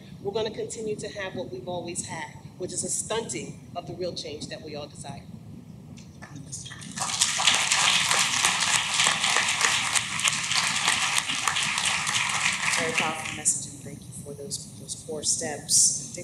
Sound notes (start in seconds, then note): 6.7 clapping